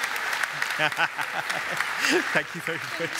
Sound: laughs

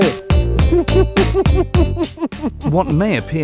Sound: laughter

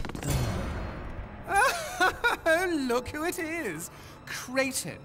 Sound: laughs; laughs

